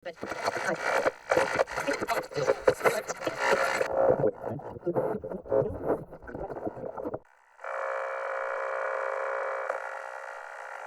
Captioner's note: static